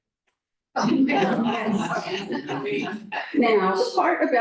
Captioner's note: chatter